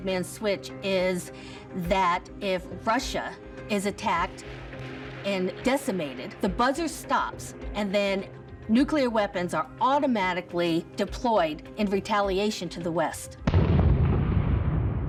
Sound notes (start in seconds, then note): 13.4 booming